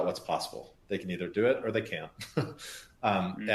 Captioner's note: laughs